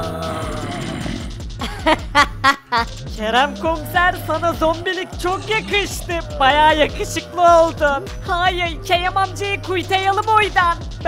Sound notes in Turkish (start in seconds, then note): 1.6 Gülme sesi